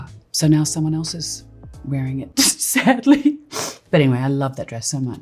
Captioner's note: laughs